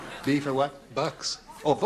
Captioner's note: laughter